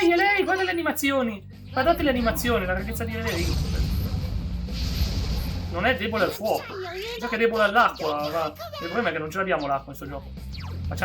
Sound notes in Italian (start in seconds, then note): none